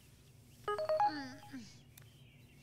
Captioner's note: Notification sound